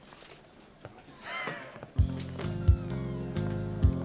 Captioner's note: laughing